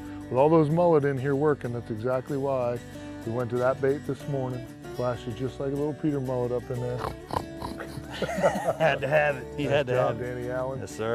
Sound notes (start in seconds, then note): 6.9 snorting